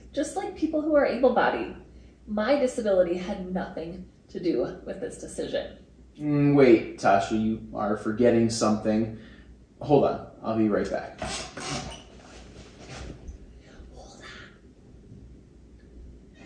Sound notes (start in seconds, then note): 14.2 whispers